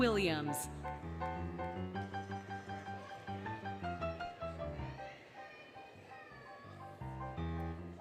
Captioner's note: applause, Cheering, Music